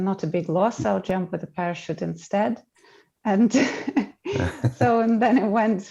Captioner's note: chuckling